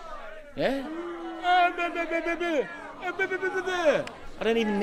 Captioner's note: Ambassador makes crying baby noises